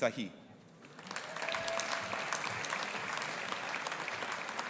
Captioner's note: audience applauding